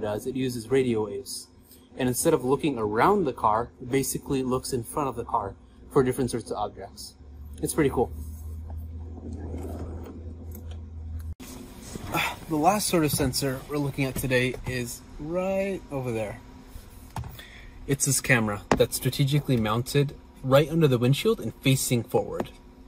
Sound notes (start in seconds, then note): 9.1 wheels gliding